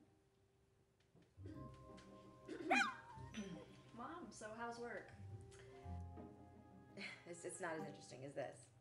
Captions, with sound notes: [DOG WHIMPERING] Mom, so how's work? It's not as interesting is this.